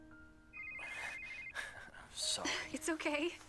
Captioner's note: cell phone ringing